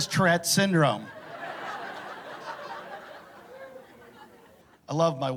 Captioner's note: laughter